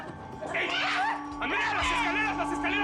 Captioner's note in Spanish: Gritos